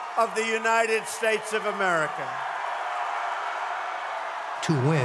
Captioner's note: crowd shouting